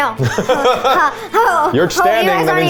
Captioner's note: laughing; laughs